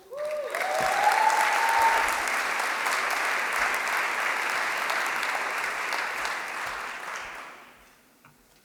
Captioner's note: applause